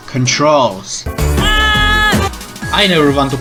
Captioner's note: character screams